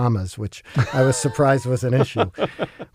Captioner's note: laugh